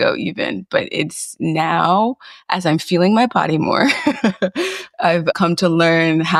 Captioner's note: chuckles